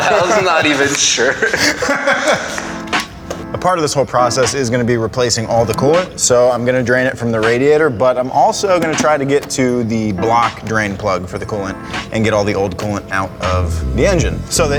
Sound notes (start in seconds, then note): 0.0 men laughing